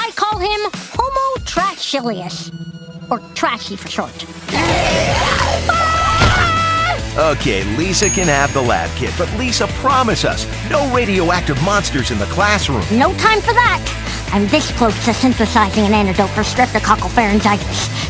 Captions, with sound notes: I call him homo-trashcilius. Or 'Trashy' for short. [growling] [screaming] OK, Lisa can have the lab kit, but Lisa, promise us... No radioactive monsters in the classroom. No time for that! I'm this close to synthesizing an antidote for streptococcal pharyngitis.